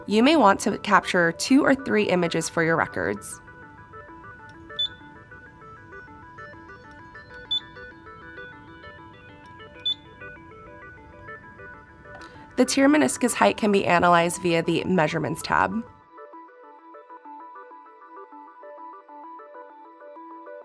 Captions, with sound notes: You may want to capture two or three images for your records. (CA-800 beeping) The tear meniscus height can be analyzed via the Measurements tab.